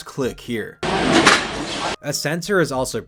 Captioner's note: loud clack